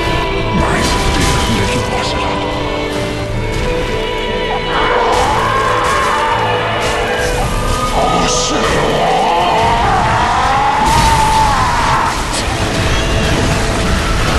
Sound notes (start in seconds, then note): 4.8 screaming; 12.1 baby crying